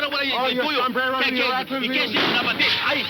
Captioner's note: gunshot